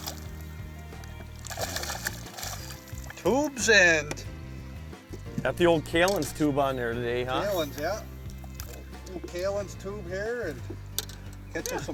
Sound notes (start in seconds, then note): 6.0 voiceover